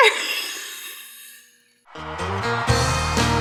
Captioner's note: wheezing Laugh